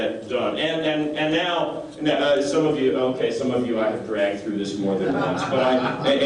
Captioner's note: laughter